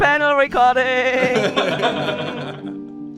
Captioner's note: laughing; soft music